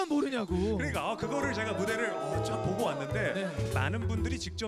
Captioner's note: boooooo